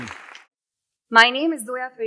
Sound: audience applauding

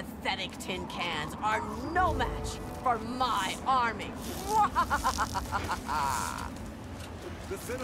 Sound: laughs deviously

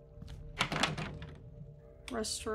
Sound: door Rattles

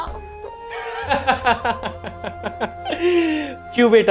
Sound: laughing

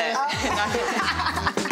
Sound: all laughing

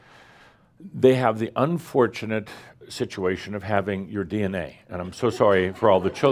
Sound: a few chuckles

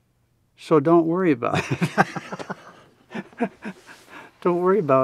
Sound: both laughing

